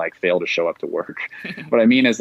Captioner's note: chuckles